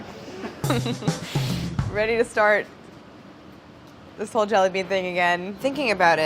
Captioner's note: laughs